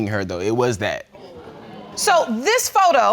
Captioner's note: audience exclaiming